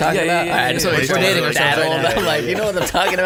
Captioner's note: laughing